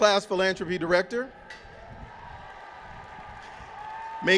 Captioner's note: cheering